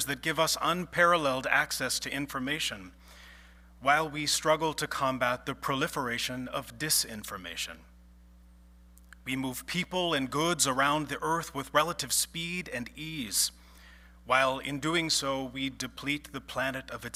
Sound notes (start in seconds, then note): none